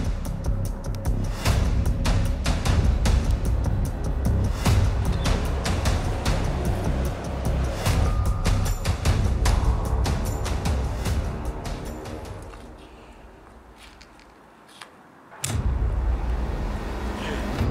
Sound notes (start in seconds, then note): 15.3 knife opening